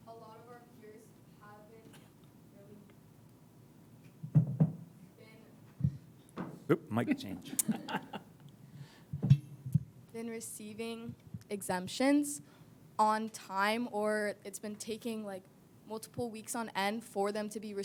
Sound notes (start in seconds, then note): 7.4 laughing